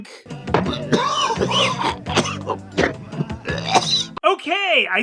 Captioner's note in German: starker Husten